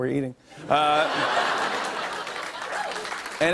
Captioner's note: laughter and applause